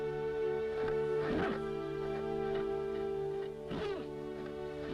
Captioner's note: horse snorting